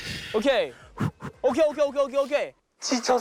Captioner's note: taking a deep breath